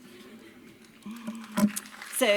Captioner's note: applause